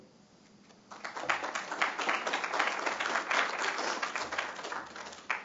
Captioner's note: applause